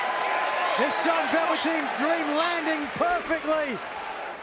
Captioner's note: crowd cheering